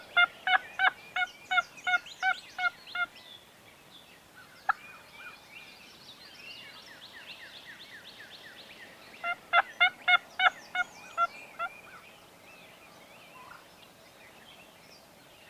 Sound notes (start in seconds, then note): 0.4 turkey call yelping; 4.1 birds tweeting; 9.6 turkey call yelping; 12.7 birds tweeting